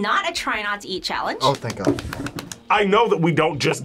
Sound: claps

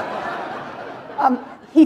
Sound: laughter

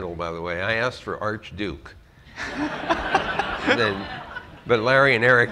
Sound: laughter

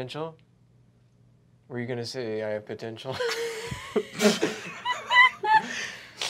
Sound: laughter

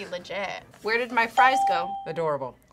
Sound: bell rings

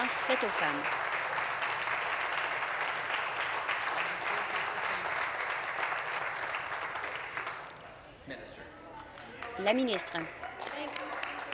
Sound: applause

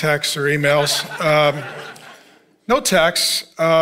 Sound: congregation laughing

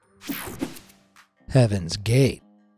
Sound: techno sound effect

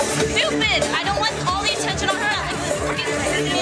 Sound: background chatter

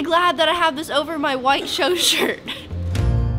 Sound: chuckles

